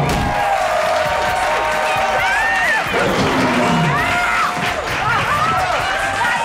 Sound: cheering

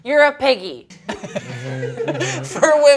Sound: laughs

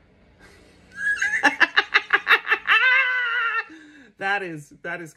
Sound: laughs loudly

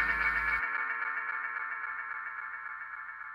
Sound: the sound of wailing with unfathomable sorrow

